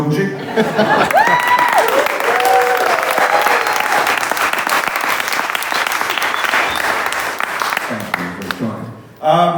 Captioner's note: appaluse and laughter